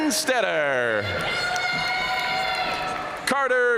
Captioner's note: audience cheering and applauding